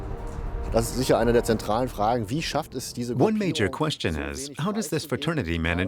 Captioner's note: speaking in German